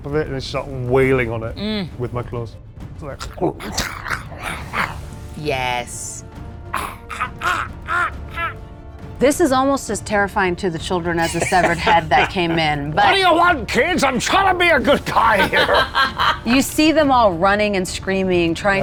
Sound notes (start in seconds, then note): 6.7 imitates cawing; 11.2 laughs; 15.2 laughs